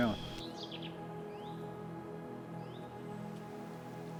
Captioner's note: birds chirping